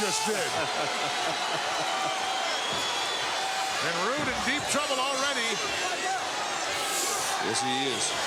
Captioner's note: laugh